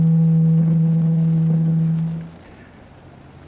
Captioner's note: microphone feedback